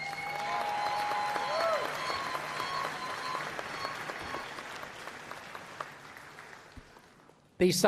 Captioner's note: applause